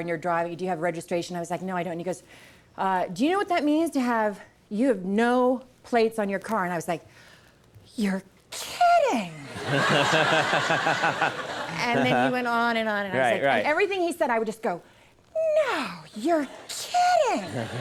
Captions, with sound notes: and you're driving. Do you have registration?" I was like, "No, I don't." And he goes, "Do you know what that means to have, you have no plates on your car?" And I was like, "You're kidding!" (Conan and audience laughing) And then he went on and on and on. Everything he said, I would just go, "No, you're kidding!"